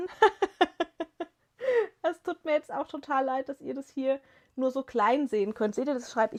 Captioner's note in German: gelächter